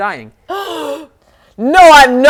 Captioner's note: gasp